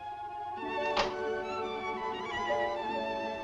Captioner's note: balcony window opens